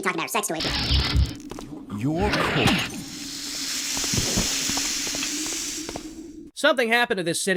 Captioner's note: special effects sounds